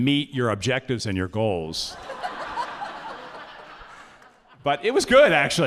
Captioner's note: audience laughing